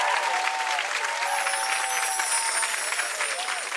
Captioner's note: chimes